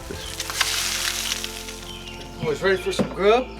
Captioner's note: egg grilling